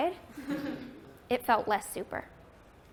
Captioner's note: laughter